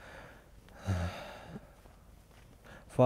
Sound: sigh

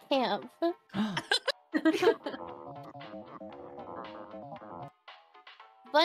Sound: laughing

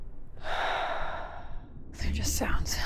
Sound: exhales

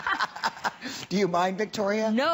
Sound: laughter

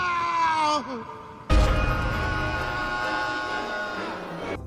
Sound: yells

